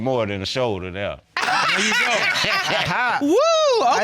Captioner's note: laughing